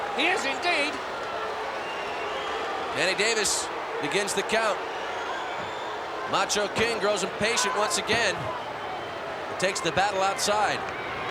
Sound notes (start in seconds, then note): 1.1 applause